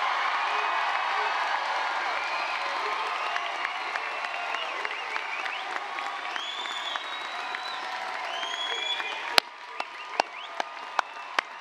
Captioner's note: applause, cheering